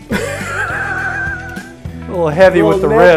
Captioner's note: laughing